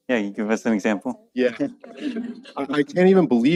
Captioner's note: laughing